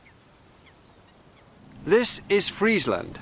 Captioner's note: birds chirping